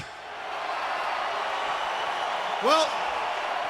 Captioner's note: crowd cheering